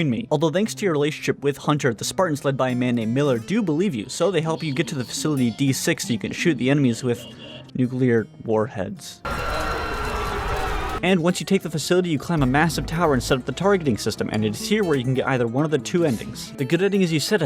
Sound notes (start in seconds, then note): 9.3 screaming